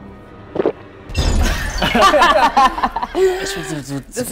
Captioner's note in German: Gelächter